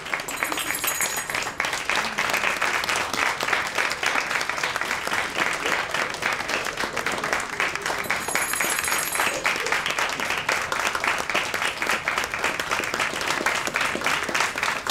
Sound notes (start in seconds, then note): 0.2 bell ringing